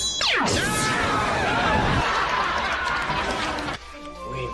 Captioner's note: audience laugh sfx